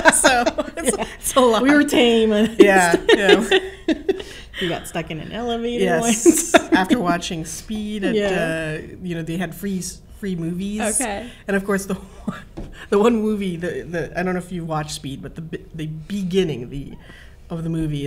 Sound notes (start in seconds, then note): 3.0 laugh